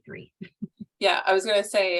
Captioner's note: chuckles